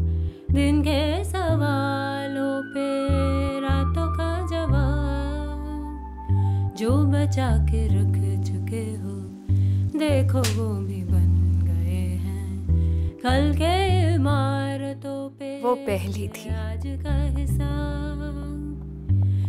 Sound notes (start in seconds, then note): 9.3 raining; 10.3 slaps